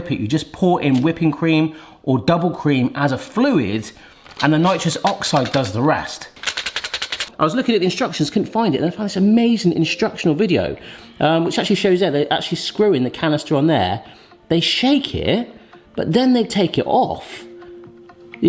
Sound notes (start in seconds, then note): 6.3 nitrous oxide chargers rattle